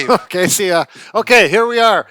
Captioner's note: chuckles